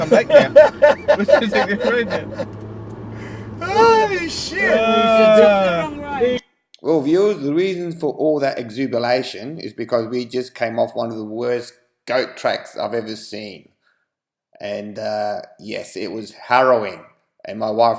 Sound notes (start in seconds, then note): 0.0 more laughing